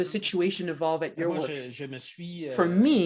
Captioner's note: speaks French